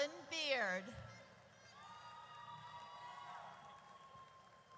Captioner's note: audience cheers